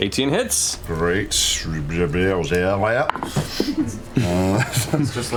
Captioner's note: stutters like reversing audio